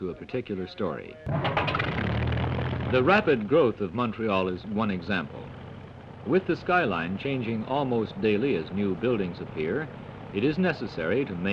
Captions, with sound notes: to a particular story. [engine sputters to life] The rapid growth of Montréal is one example. With the skyline changing almost daily as new buildings appear.